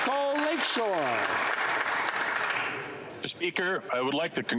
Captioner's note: some Applause